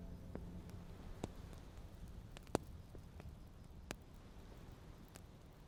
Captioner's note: fire gently crackles